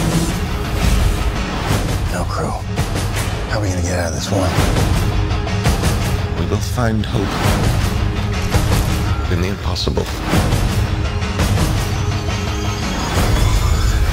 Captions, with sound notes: No crew. How are we going to get out of this one? - [Voiceover] We will find hope in the impossible.